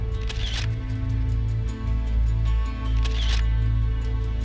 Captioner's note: camera shutter clicks